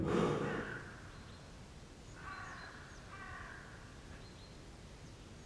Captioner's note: birds cawing